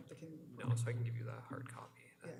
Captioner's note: whispering